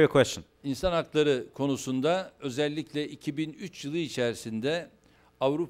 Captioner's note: non-english speech